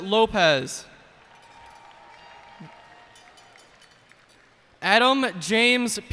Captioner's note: cheers and applause